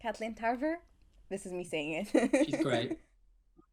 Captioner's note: laugh